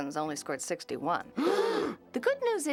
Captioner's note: gasping